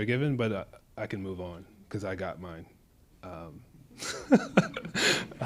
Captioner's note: laughs